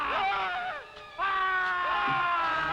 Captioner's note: Krupp screaming; Bruno screaming; both screaming